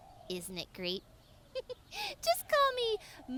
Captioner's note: giggles